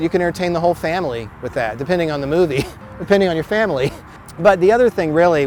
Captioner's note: laughs